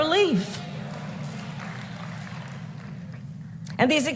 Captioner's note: applause